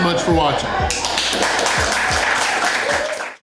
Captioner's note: crowd applause